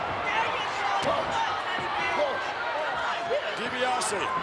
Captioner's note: crowd murmuring